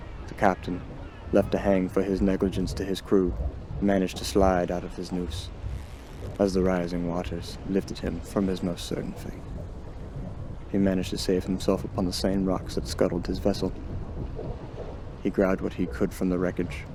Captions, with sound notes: The captain, left to hang for his negligence to his crew, managed to slide out of his noose, as the rising waters lifted him from his most certain fate. [ocean waves] He managed to save himself upon the same rocks that scuttled his vessel. He grabbed what he could from the wreckage.